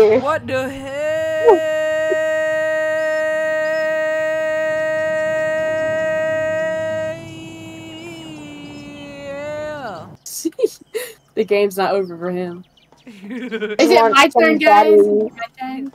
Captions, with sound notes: what da heeeeeeeeelll the game's not over for him *Goof laugh* is it my turn guys?? is it my turn?